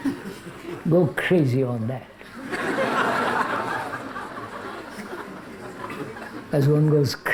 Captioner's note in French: rires